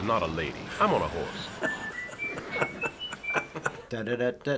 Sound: chuckling

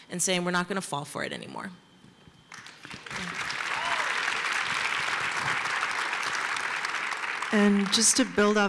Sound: applause

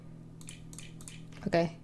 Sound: mouse clicking

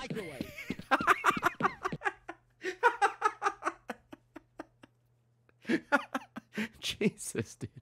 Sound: laughs

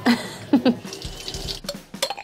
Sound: laughs; ice clinks

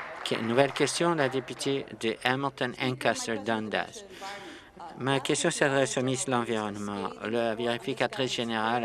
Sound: applause

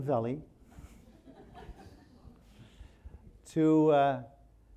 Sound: audience laughing

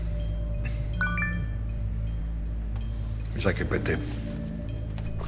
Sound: cell phone notification

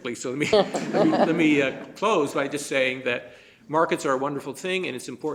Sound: laughter

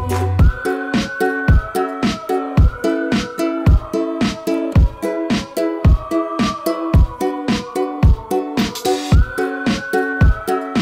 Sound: whistling

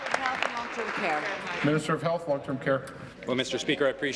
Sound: applause

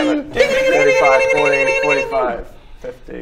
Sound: dingalingalingalingalingalingaling

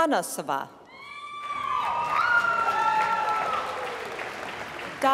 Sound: applause

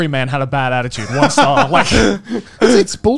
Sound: laughing

